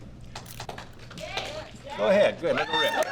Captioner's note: audience members chattering